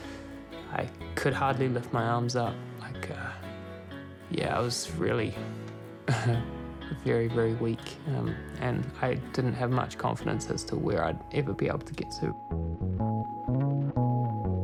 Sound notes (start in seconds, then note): 6.0 chuckles